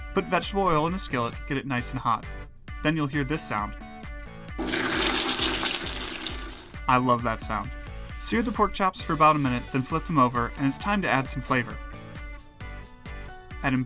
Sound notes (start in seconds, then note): 4.6 sizzles loudly